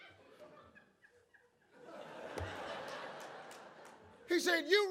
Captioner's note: audience laughs